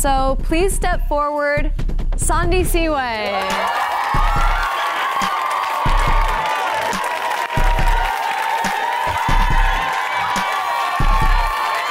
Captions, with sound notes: So please step forward Sandisiwe. (women cheering and clapping)